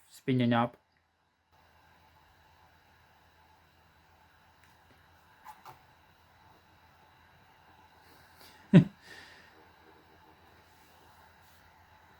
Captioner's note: external dvd drive whirling